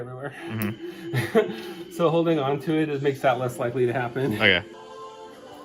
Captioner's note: laughs; gospel choir sings